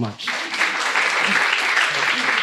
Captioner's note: applause